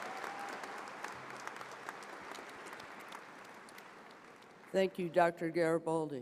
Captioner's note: applause